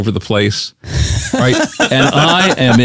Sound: laughs

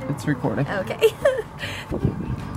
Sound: laughing

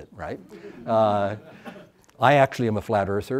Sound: audience laughs

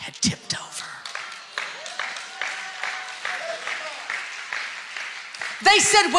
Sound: congregation applauding

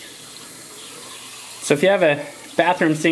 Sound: water rushing

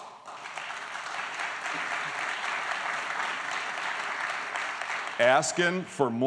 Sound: applause

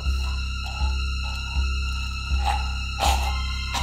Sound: dramatic chord; gurgling; dramatic music

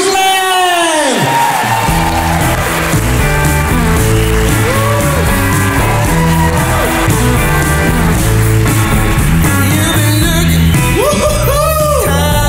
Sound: crowd applauds

